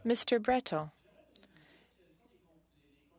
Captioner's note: speaking French